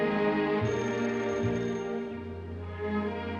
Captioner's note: doorbell Rings